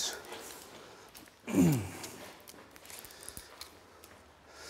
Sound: throat clearing

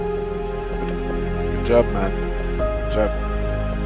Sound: on the radio

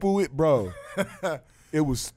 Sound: laughing

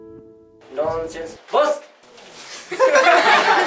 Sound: aggressively; everybody laughing

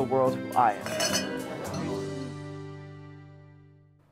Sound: glasses clinking

